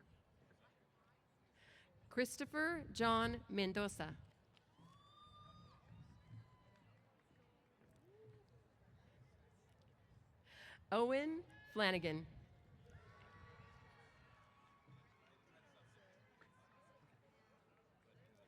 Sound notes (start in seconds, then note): 12.8 cheers